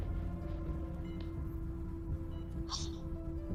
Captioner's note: scoffs